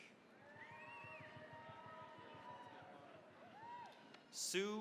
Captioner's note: cheering, applause